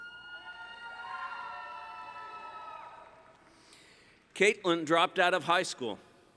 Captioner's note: cheering